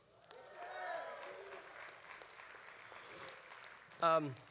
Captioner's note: audience applauding